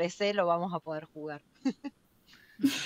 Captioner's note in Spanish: risas